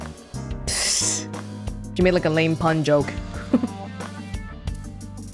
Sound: chuckles

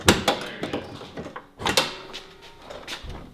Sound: bonnet rattles; bonnet catch releases

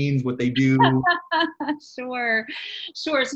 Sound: laughs

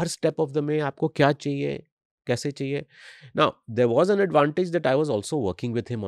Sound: speaks hindi

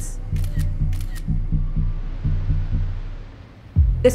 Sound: camera clicks

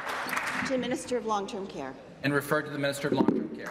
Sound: applause

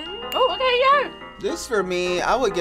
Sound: chattering

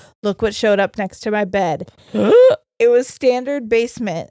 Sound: gasps

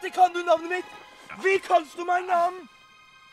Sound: in German

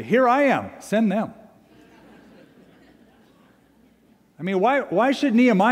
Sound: laughter

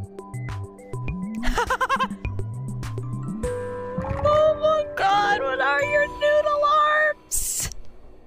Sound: laughing in delight

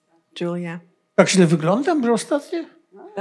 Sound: foreign language

